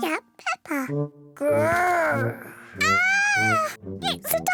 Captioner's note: peppa screams